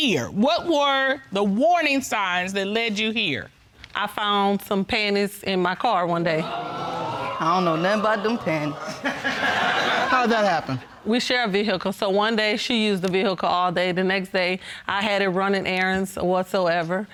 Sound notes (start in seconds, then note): 6.5 audience gasping; 9.0 audience laughing